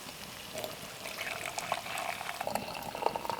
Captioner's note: pouring